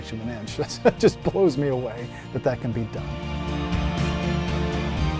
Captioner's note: laughs; intense dramatic music